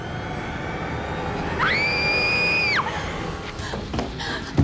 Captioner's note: girl screams